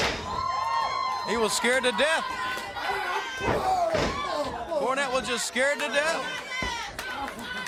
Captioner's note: crowd chatter